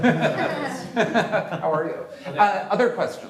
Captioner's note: laughter